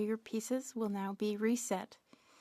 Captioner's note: speaking French